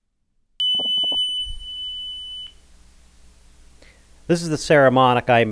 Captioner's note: tone generator beeping